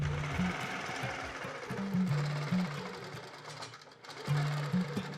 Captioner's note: sewing machines whirring; upbeat energetic music